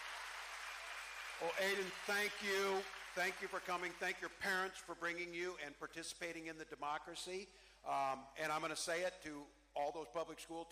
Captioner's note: cheering